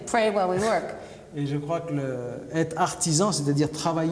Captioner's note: speaking french